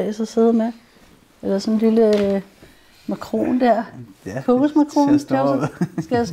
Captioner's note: laughs